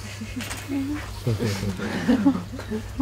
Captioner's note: soft laughter